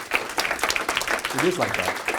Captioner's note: audience applause